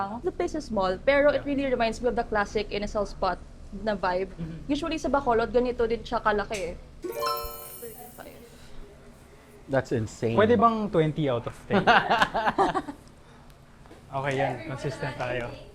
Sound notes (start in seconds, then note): 11.7 laughs